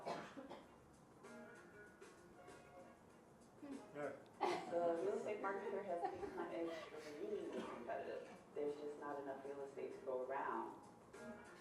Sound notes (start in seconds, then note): 1.7 upbeat pop music; 5.7 audience giggles